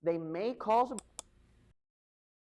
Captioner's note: mouse click